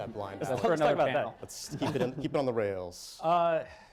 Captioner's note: laughter